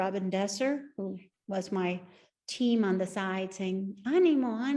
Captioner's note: speaks Spanish